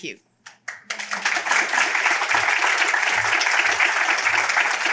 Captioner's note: applause